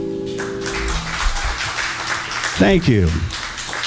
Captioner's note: audience applauding